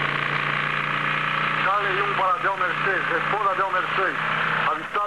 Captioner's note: man On Radio